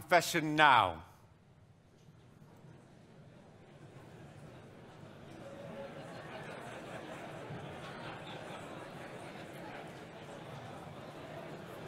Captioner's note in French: on entend un brouhaha, les personnes du public qui discutent